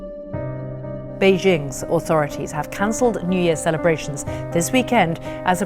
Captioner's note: rolling news audio